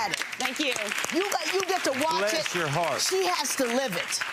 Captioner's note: audience applauding